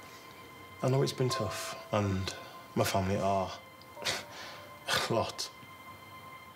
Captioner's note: laughs